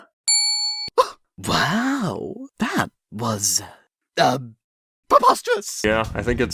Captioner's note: gasp?